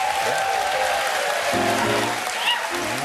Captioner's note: applause